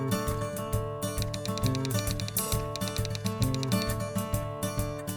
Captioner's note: typewriter sounds